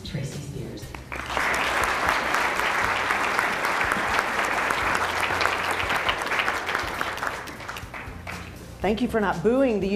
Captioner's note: applause